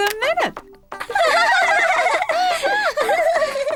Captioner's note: laughing